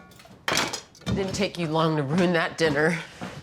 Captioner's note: cutlery clattering